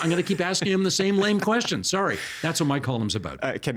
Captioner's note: laughing